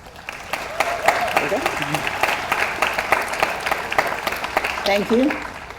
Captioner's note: audience applauds